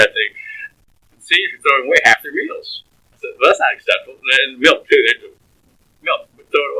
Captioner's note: laughs